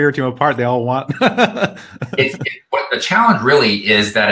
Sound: laughs

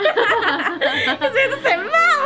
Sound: both chuckling

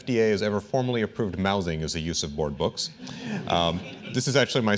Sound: laughter

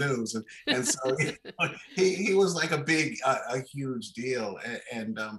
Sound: laughing

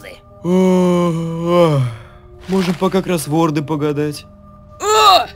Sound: yaawn

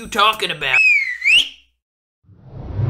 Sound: whistling

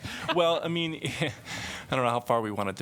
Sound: laughter

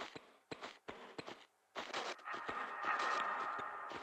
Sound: noise of someone walking

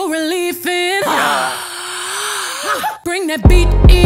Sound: gasps; exclaims

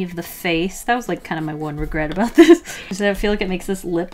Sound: laughs

